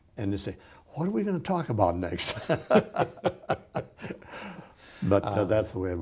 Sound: both laughing

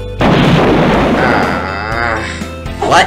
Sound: boom!; groaning

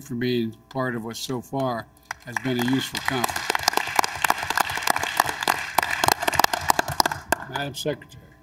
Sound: applause

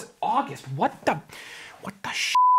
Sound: beep

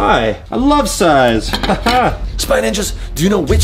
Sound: laughs

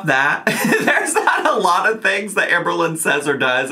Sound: laughs

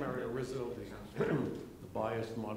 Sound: chatting

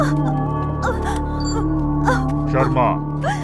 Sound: cries

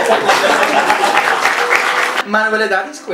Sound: applause

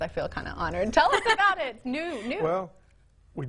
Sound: woman laughing

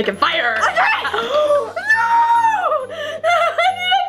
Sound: gasps

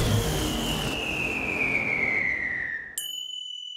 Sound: whistles Away; ding

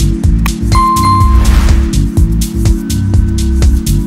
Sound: bell rings

